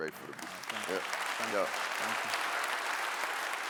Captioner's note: clapping